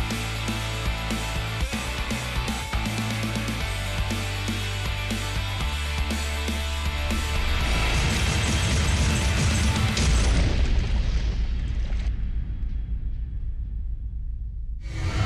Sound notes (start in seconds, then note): 7.6 crashing